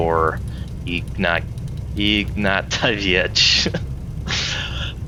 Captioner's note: laughs